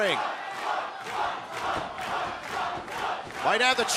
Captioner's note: fans chanting